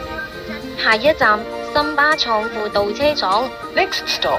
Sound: Cantonese

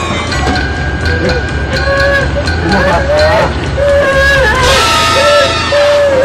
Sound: whining

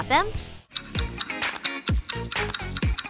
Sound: clock ticking

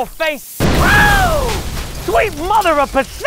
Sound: explodes

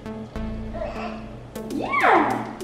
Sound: babbles

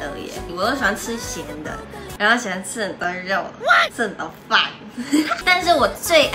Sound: hahaha

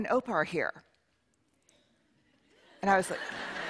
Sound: laughter

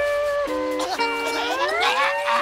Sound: coughing

